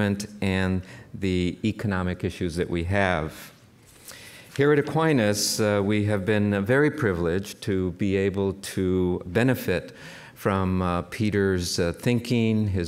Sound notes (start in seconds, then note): none